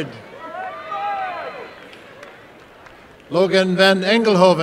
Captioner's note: applause and cheering